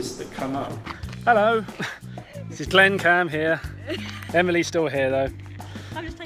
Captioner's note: laughs